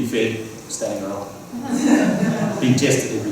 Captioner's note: laughter